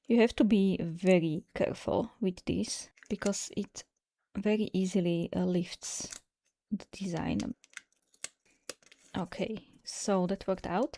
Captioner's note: closing tape